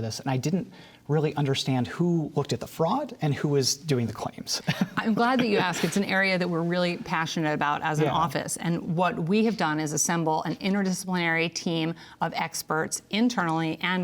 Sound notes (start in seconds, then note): 4.6 laughs